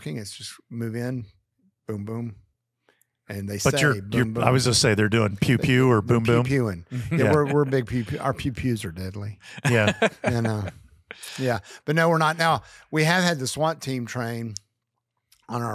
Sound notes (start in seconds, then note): 9.4 laughs